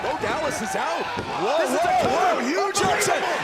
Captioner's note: crowd chatter